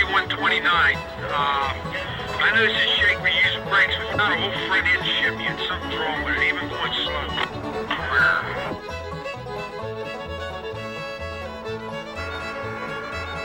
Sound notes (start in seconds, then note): 0.0 voiceover; 8.5 voiceover